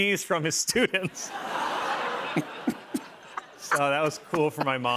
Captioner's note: laughter